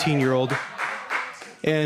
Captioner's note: applause